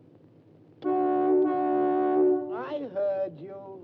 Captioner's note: car horn blows